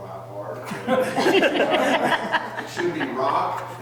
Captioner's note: all laughing